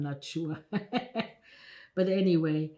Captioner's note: laughing